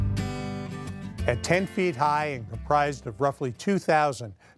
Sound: gentle guitar music; voiceover

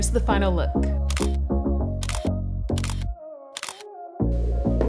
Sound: camera clicks

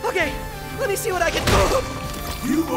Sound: grunts

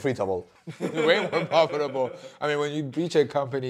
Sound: group laughing

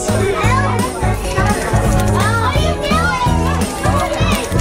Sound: clicking

